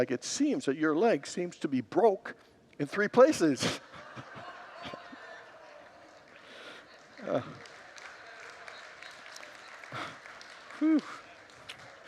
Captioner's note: congregants laugh and applaud